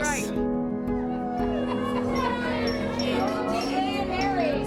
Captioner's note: glasses clinking; bar patrons chattering